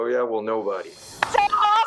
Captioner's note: applauding